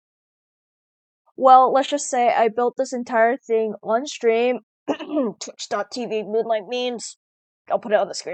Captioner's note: clears throat